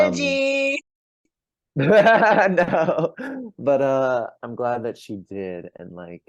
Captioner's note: laughs